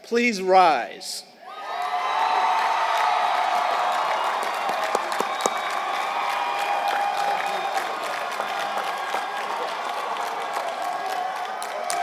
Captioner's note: applause